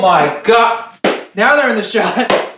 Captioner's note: shoes clapping